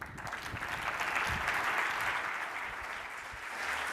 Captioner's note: audience applauds